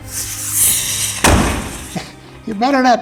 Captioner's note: firework explodes